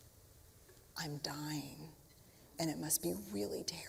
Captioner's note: quietly